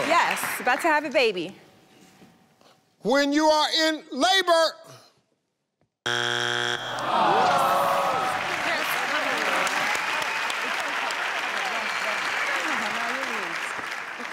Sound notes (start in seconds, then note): 6.0 buzzer buzzes; 6.9 audience groans; 8.9 audience applauding